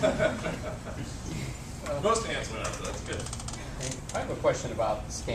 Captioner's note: laugh